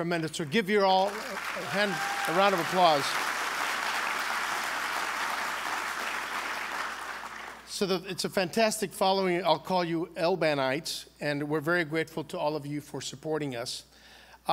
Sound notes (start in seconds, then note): 5.1 applause